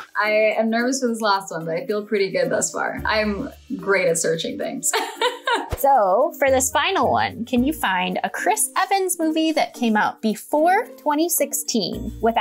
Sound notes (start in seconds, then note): 4.9 laughs